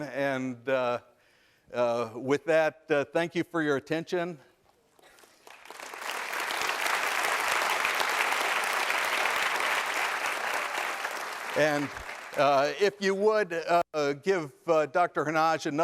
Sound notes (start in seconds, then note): 5.1 applause